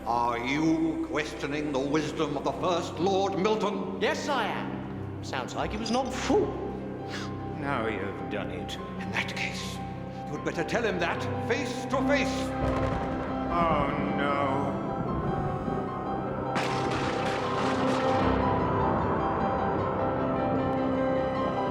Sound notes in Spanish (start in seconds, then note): 16.5 chocando y zumbando